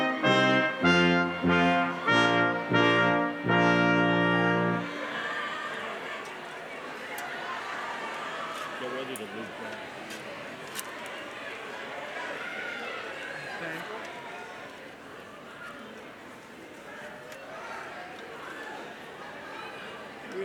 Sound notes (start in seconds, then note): 0.0 lively music continues; 5.1 students cheering; 10.2 crowd chattering; 16.1 crowd chattering